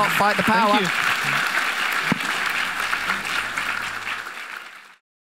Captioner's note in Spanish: aplauso de la audiencia